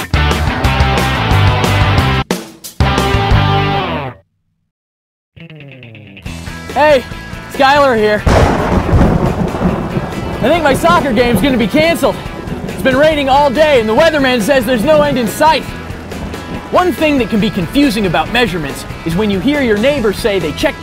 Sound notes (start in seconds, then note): 8.2 thunder